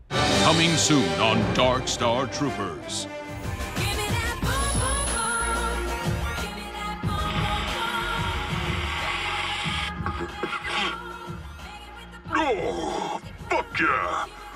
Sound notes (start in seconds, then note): 3.8 disco music; 7.2 snorting sound; 10.5 coughs